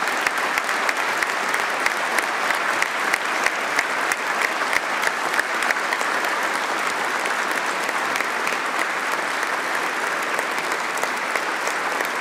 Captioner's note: applause